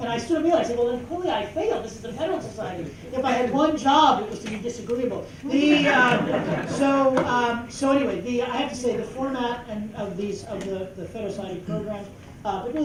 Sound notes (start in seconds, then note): 5.7 laughter